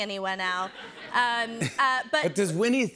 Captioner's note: laughter